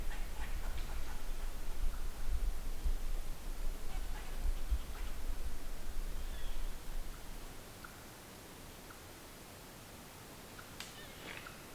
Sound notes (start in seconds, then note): none